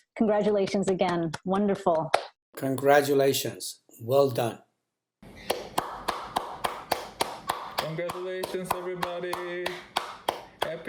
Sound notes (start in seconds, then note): 5.5 applause